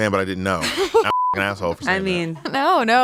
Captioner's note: beep